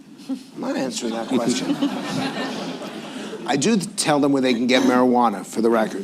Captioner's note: laughter